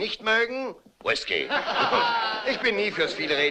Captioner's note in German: lacht